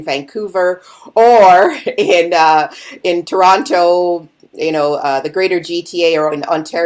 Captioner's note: chuckling